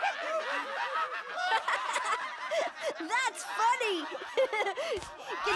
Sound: laughs; giggles

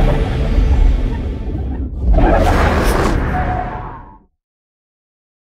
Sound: sfx sting

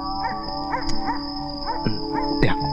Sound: dog Barking In Distance

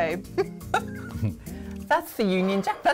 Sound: laughs

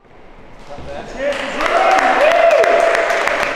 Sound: crew cheering and clapping

